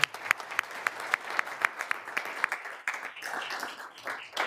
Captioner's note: all applauding